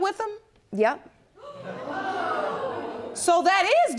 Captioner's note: audience gasps